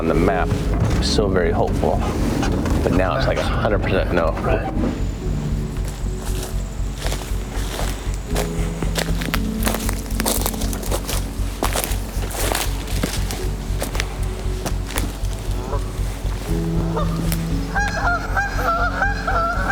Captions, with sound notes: it on the map, still very hopeful, but now it's like a hundred percent no. (leaves rustling) (ducks quacking)